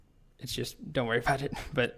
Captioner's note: chuckling